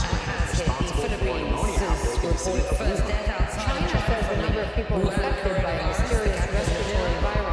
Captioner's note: nervous news coverage with many voices at the same time